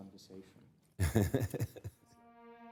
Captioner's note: laughs